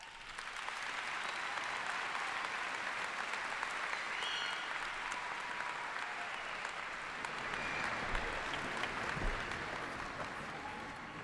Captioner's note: applause